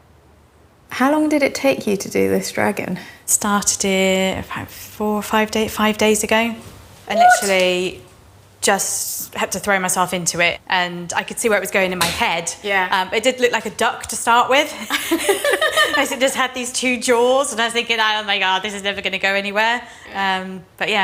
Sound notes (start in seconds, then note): 14.9 both laugh